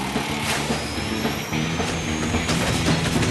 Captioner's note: thud! whirl!; whistle!